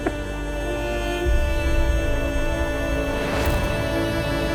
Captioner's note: emotional vocalising; Maan sobbing